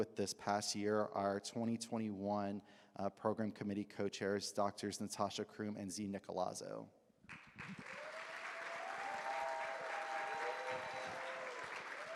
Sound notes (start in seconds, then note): 7.3 audience claps; 7.6 audience cheers